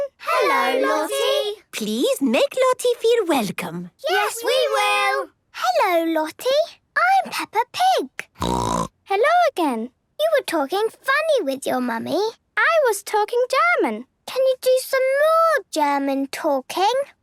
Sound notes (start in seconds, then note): 8.4 snorting